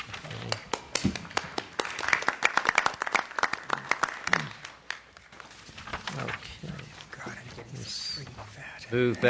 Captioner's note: applause